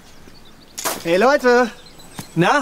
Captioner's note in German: freudig